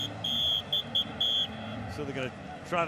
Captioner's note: whistle blows